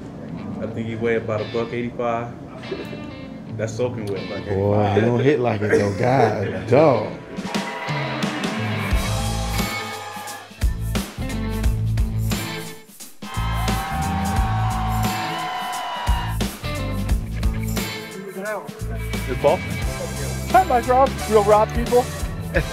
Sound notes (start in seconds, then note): 7.7 upbeat rock music; 13.2 crowds cheering; 13.4 upbeat rock music